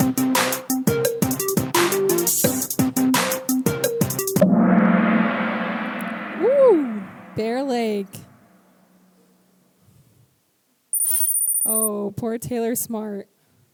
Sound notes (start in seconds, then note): 4.3 gong sound